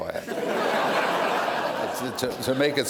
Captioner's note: laughter